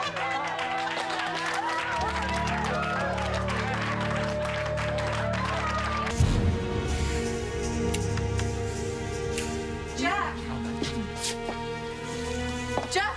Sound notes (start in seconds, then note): 0.0 cheers and applause